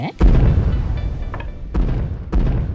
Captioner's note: distant booming